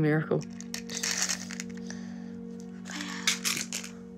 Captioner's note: toy rattles